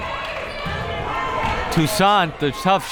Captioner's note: crowd members shouting